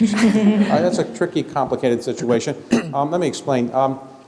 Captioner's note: laughter